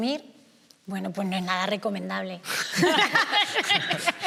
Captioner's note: they laugh